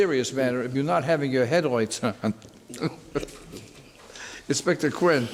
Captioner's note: laughs